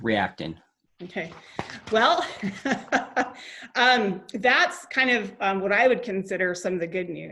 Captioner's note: laughs